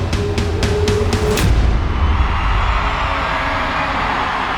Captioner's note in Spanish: público aclamando